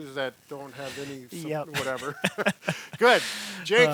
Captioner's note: laughs